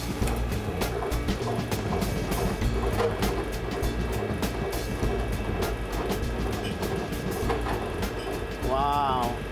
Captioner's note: machine whirring